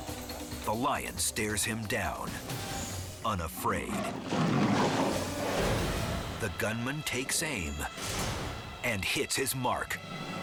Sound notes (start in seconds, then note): 0.0 dramatic music continues; 3.5 lion roars